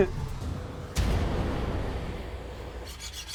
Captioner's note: hissing